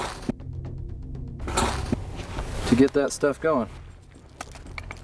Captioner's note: sparks igniting